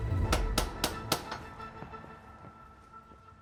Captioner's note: knocking on door